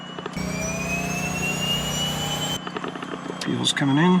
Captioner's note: blades whirring